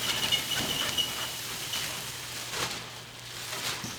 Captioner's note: squeaking